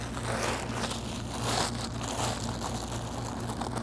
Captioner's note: bag crinkling